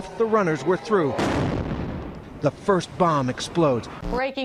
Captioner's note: explosion